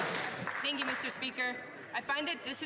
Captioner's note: some Applause